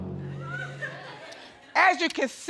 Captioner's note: audience laughing